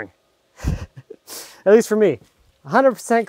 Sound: chuckles

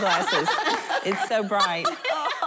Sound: laughing

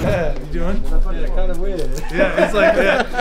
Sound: laughs

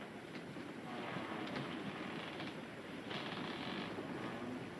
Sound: wood creaking

